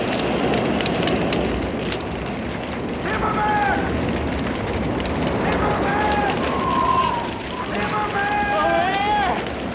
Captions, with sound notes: Timmerman! Timmerman! (wind blowing) Timmerman! - Over here.